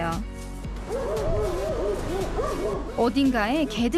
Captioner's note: woof woof